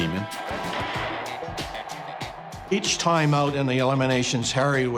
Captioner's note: pound